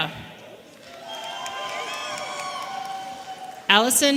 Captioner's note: audience cheering